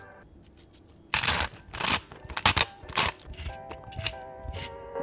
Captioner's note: crunching noises; piano lo-fi music